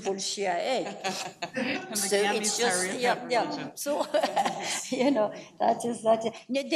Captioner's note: forum laughs